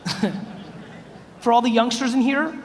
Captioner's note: chuckles